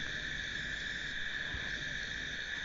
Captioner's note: crickets chirping